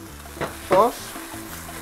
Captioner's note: sizzle; clang